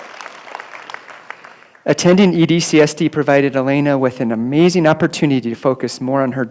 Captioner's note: applause